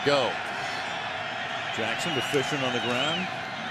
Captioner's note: cheering